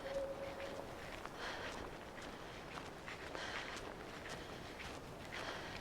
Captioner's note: breathing heavily